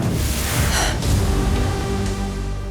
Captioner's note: gasps